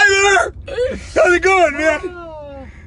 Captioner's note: laughing